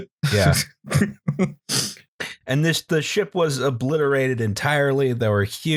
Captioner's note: laughter